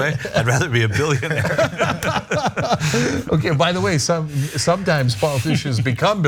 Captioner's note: laugh